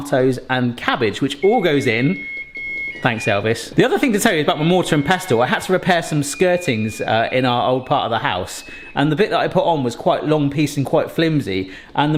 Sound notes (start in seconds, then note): 2.3 timer beeping